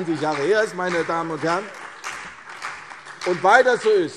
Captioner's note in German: Beifall CDU und BÜNDNIS 90/DIE GRÜNEN